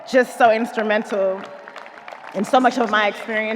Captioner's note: audience applauding